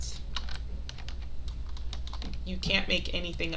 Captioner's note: keyboard clicking